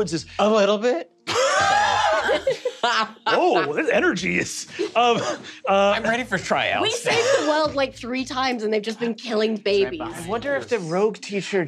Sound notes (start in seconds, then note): 1.3 cast laughing; 5.1 laughs